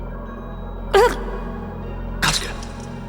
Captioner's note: chokes